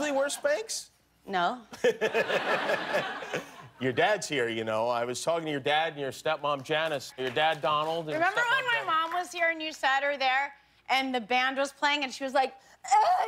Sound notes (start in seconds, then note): 5.5 laughter